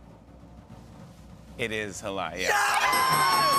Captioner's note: drumroll; cheers and applause; dinging